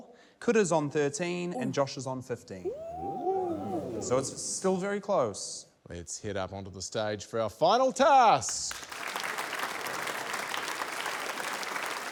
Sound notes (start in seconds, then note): 8.4 applause